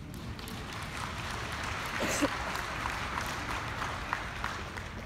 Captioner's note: audience applauding